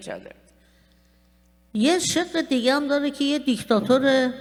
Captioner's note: speaking persian